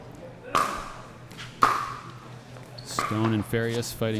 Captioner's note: ball being hit